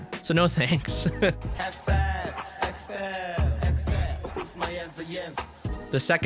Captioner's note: Matt Smith’s mating call; laughs